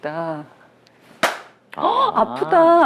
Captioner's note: slapping